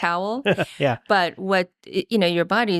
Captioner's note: laughing